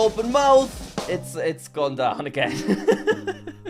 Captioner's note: drum roll; laughs; sad music